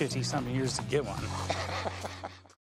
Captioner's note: chuckling